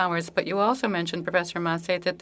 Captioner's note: speaking french